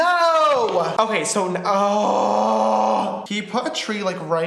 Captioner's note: grunts